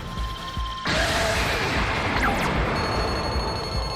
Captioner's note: fortress explodes